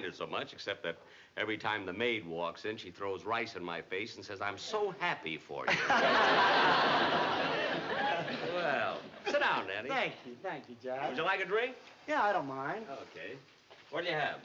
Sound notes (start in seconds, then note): 5.6 laughter